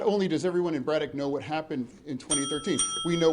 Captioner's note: bell dinging